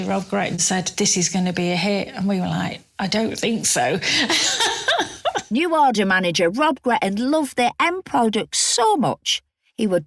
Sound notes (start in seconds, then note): 4.2 laughs